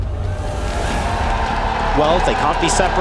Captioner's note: crowd cheering, applauding